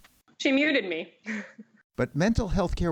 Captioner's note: laughter